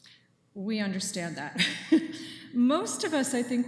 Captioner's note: chuckles